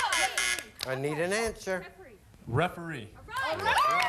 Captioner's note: buzzer sounds